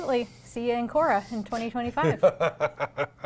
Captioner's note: laughter